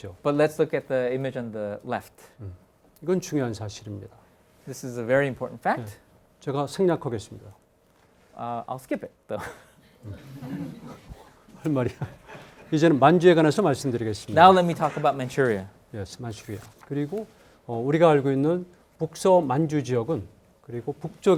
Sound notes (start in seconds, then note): 0.0 speaking in Korean; 3.3 speaking in Korean; 6.7 speaking in Korean; 9.4 laughs; 10.0 students laughing; 11.9 speaking in Korean; 16.9 speaking in Korean